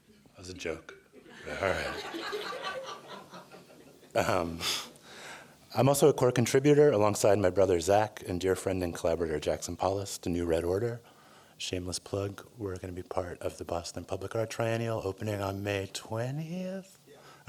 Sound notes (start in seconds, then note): 1.2 laughter